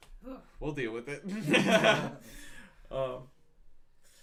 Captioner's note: laughs